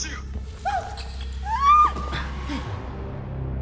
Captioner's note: Beck squeals; dramatic music